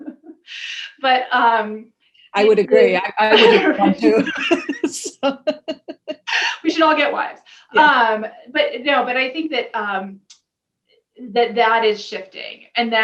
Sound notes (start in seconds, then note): 3.3 laughing